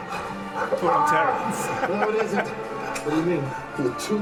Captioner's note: laughs